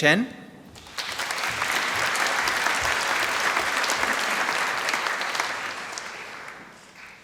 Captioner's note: applause